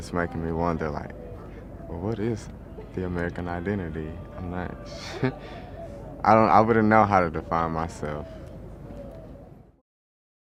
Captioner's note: chuckles